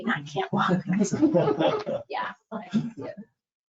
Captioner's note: scattered laughter